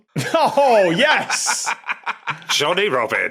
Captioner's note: laughs; cackles